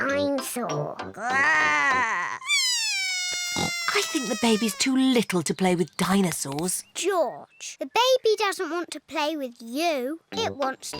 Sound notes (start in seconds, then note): 1.2 bawls